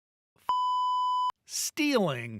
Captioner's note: beep